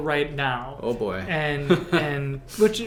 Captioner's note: laughs